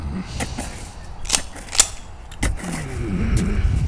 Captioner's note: chambers round